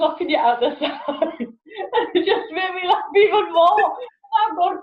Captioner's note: laughs